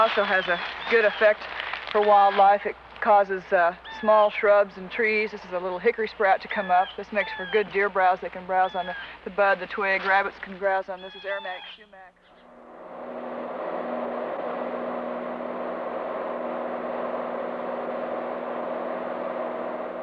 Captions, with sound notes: This also has a good effect for wildlife, it causes small shrubs and trees. This is a little hickory sprout to come up. This makes for good deer browse. They can browse on the buds, the twigs. Rabbits can browse on this... (airplane sounds)